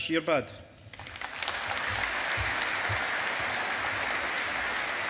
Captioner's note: audience applauding